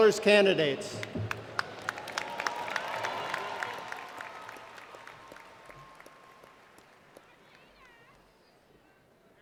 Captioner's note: applause